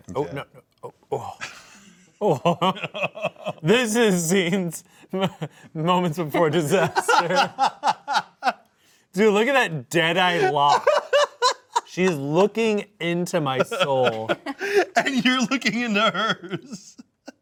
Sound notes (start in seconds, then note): 1.2 laugh; 6.3 laughs